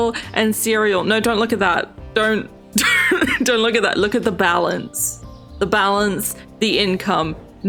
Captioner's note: laughs